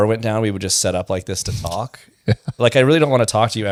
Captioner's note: laughs